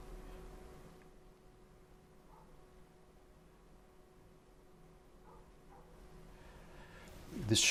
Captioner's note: silence